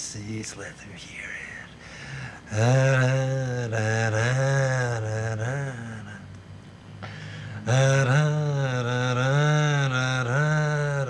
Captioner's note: hums